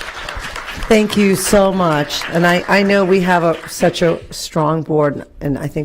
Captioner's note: applause